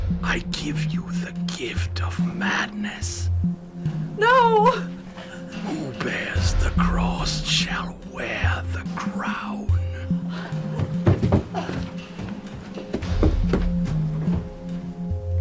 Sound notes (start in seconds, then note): 11.8 Angelica grunts